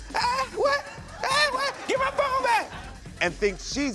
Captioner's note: audience laughs